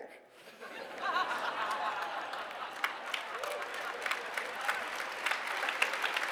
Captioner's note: applause